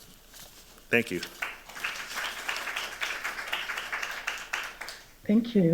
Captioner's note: applause